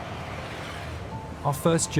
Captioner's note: van engine whirring; gentle music